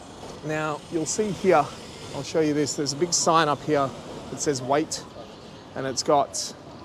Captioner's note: horn beep